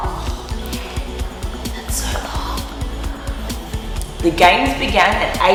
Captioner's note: whispering